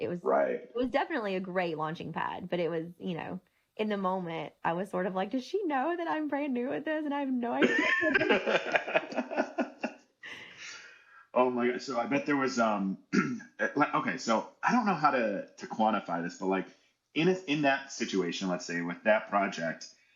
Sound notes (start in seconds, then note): 7.6 laughing